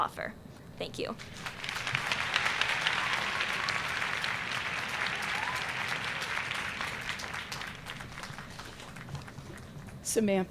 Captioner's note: applause